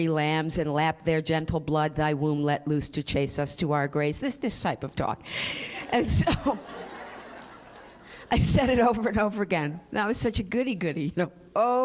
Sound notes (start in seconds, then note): 5.6 laughter